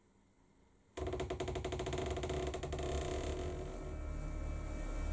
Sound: door creaks; suspenseful music

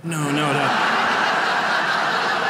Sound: audience laughs; audience claps

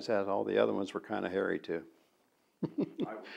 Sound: laughs

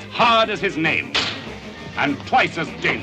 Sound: loud slap

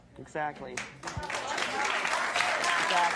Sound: audience applauding

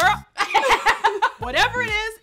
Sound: laughter

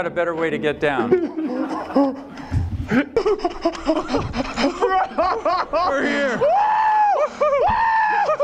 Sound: laughter

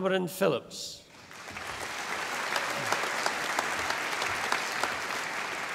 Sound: audience applauding

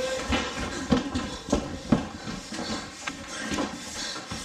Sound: footsteps; breathing heavily

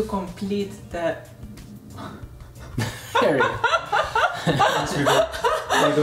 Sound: both laughing

